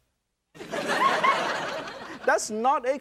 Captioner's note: laughter